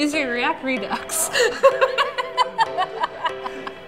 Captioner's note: laughter